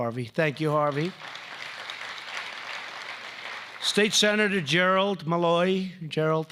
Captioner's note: applause